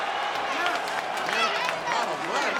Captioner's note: audience cheering; group chattering